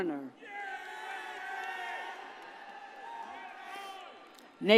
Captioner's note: audience cheers